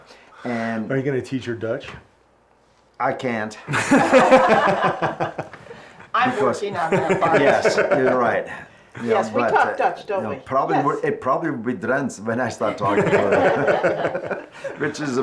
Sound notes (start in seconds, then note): 3.9 laughs; 10.6 speaks in foreign language